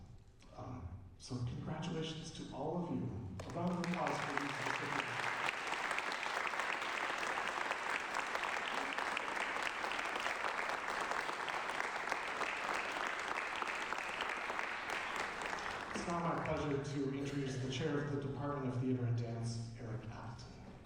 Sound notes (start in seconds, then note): 3.4 applause